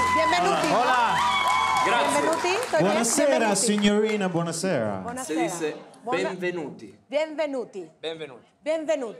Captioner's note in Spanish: Hablan en otro idioma